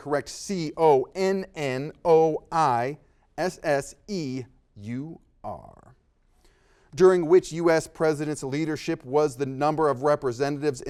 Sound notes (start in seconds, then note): none